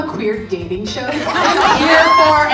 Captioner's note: all laughing